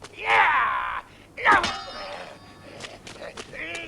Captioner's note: Hundra roars; man growling